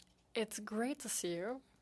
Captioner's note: speaking French